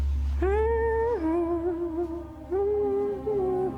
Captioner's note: humming